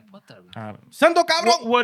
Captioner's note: non-english Speech